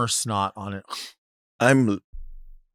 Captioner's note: blows through nose